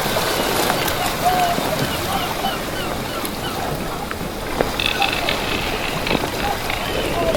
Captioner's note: sound of sailors